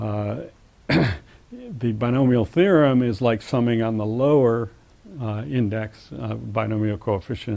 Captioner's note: cough